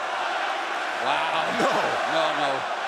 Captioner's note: laughs